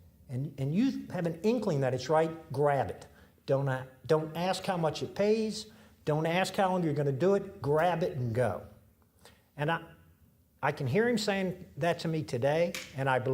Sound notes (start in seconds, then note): none